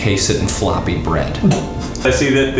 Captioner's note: someone snorts